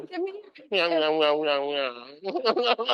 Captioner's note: speaking gibberish; chuckling